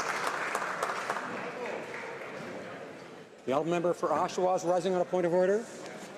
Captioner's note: some Applause